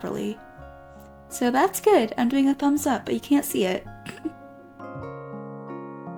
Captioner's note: chuckles